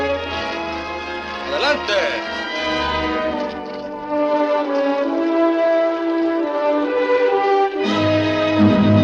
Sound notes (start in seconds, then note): 1.1 speaks Spanish; 4.0 bright orchestral music